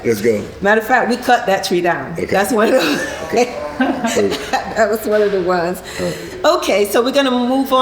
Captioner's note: laughing